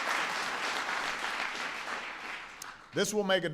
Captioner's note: applause